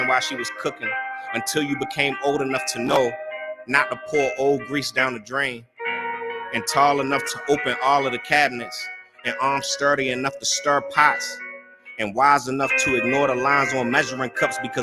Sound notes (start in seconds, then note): none